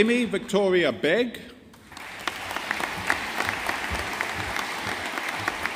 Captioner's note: audience applauding